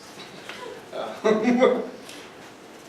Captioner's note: laughing